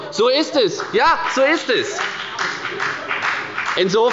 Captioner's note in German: Beifall bei der FDP